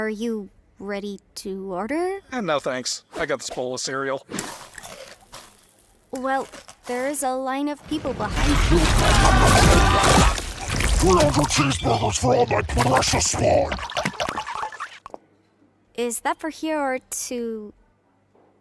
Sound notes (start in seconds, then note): 4.4 crunching; 7.8 munching; 8.0 NPCs screaming